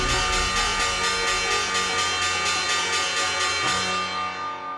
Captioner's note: bell clanging; bright music